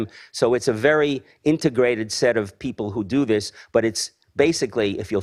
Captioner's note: none